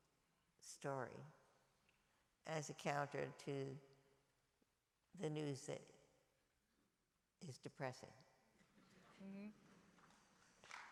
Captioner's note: applause